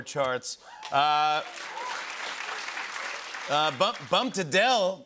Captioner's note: cheers and applause